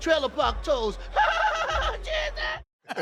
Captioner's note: laughing